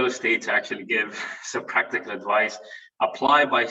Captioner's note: chuckles